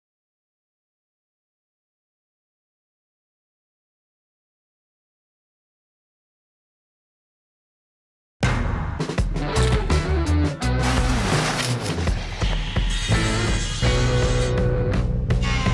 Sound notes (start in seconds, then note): 9.1 upbeat music; 10.8 tape measure swooshing; 12.6 saw buzzing